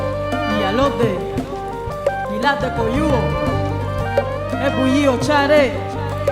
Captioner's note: speaking in Spanish